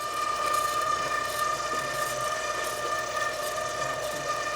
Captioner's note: machine whirring